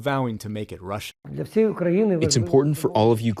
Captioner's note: through translator